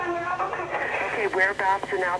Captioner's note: on phone